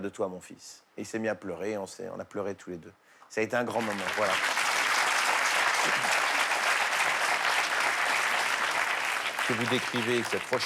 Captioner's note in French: applaudissements